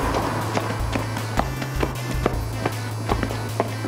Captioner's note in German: Schritte